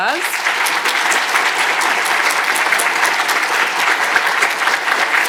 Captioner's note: audience applauding